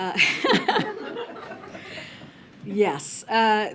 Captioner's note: laughter